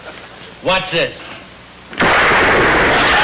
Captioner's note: gunshot; audience laughter